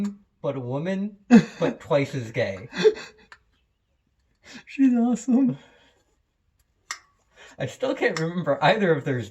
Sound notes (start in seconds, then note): 2.5 laughter